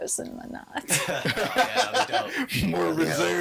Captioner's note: all laughing